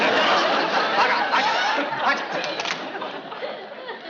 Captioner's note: non-english